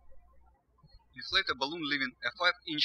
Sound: birds chirping

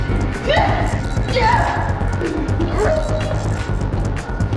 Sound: Sandra groaning

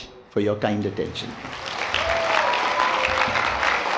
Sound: applause

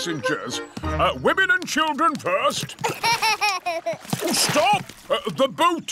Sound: laughs

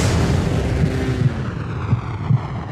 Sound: heart beat

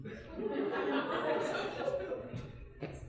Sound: audience laughing

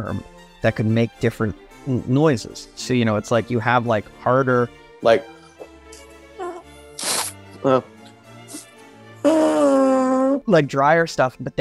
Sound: fart noise

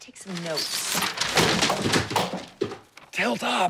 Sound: crashing

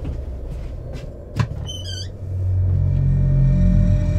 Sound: footsteps thumping; door creaks; eerie music

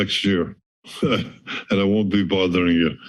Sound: laughs

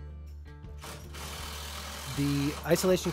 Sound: machine whirring

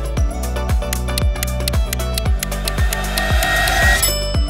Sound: timer ticking; bell dings

